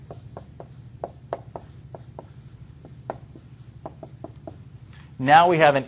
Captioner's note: writing on whiteboard